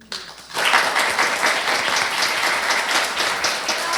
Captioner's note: applause